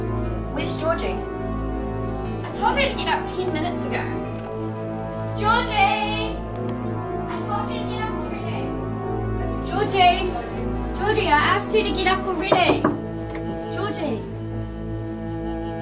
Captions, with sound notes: Picker 3: Where's Georgie? Alice: I told her to get up 10 minutes ago (yelling) Georgie I told you to get up already Georgie Georgie I asked you to get up already *knocks* Georgie